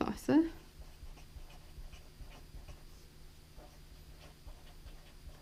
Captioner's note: pen scratching